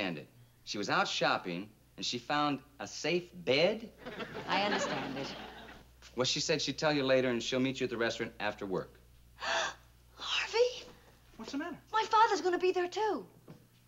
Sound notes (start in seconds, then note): 9.4 gasps